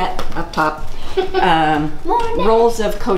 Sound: laughing

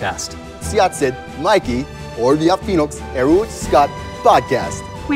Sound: speaking foreign language, can hear "Mikey" and "podcast"

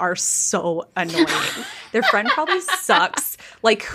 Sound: laughing

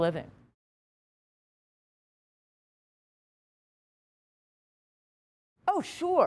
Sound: silence

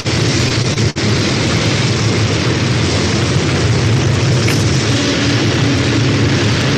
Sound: rocket noise

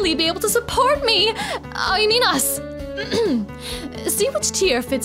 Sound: clears throat

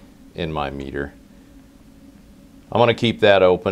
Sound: pause

